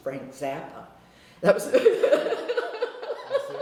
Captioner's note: laughter